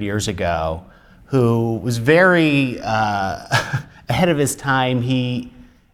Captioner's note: chuckles